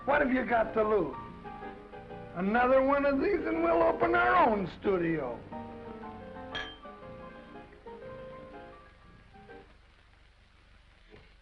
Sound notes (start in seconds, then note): 6.5 glasses clinking; 7.4 gentle music